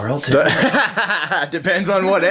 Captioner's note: laughing